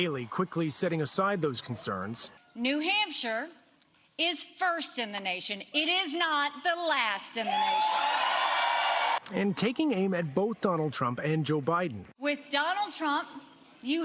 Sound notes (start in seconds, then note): 7.4 cheers and applause